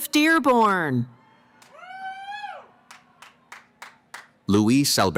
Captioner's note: cheering